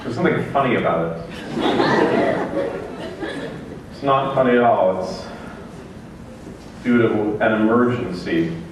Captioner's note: laughter